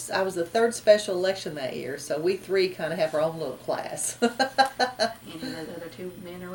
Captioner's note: laughs